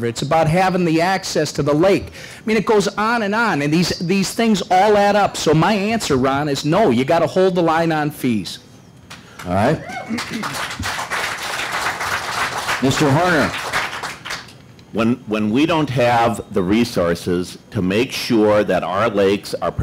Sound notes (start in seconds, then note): 14.0 applause